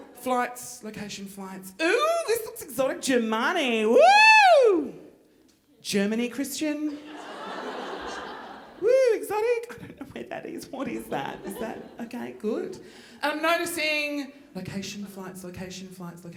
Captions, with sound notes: Flights, location, flights, ooh, this looks exotic, Ger-Money, woo! Germany, Christian! (audience laughing) Woo, exotic, I don't know where that is, what is that? Is that, okay, good. I'm noticing location, flights, location, flights,